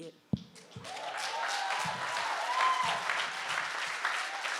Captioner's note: audience applauding